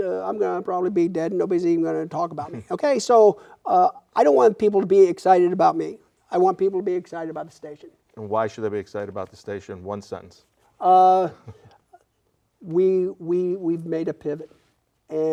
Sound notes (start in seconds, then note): 2.4 laughing; 11.2 laughing